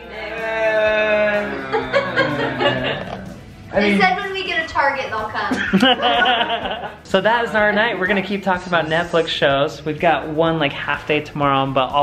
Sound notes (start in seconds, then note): 0.0 groaning; 5.5 laughing